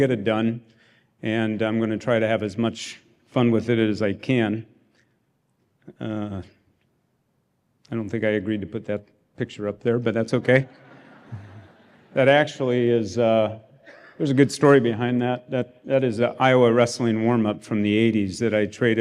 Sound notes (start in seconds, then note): 10.4 laughter